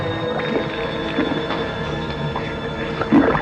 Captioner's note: slurping and gurgling